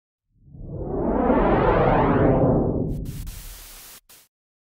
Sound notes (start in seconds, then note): 0.6 swishing sounds and static